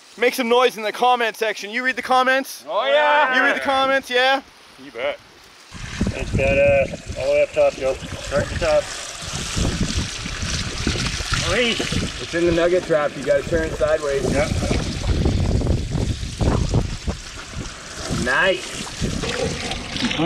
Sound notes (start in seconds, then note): 9.5 water splashing; 15.6 whooshing